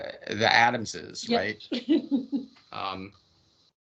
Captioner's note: laughing